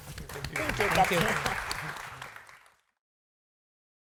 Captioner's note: audience applauding